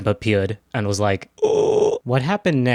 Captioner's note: evil chimp noise